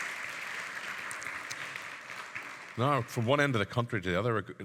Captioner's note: audience clapping